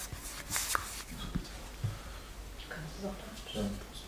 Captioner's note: they speak quietly to each other